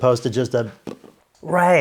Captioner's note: blows single raspberry